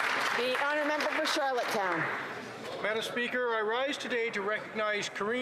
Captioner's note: some Applause